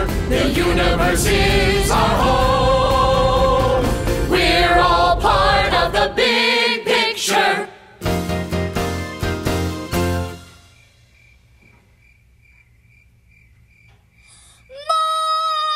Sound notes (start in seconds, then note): 10.4 crickets chirping